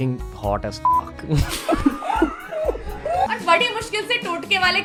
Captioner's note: more dramatic laughter